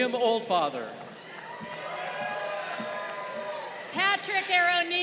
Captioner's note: crowd cheering